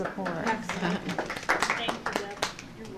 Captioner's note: applause